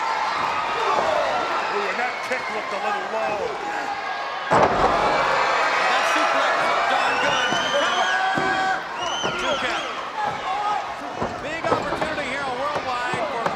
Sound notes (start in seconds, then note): 1.5 announcer speaking faintly off mic; 4.5 person thudding; 6.1 announcer speaking faintly off mic